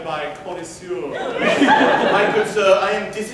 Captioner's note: laughter